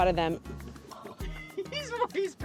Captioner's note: light laughter